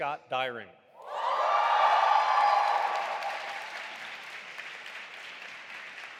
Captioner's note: audience applauding and cheering